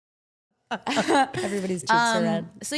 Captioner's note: everyone laughs